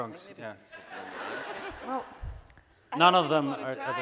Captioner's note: audience laughing